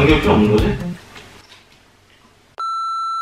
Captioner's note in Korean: 정적